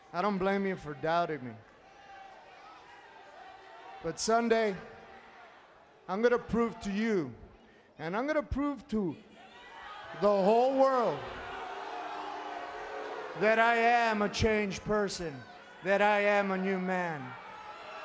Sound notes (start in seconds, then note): 11.4 crowd booing